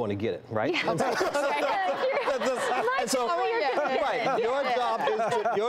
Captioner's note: multiple people talking